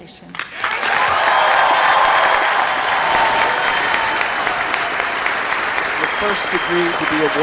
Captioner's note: cheering